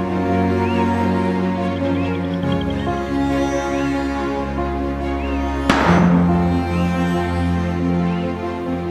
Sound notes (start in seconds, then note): 5.7 gun shot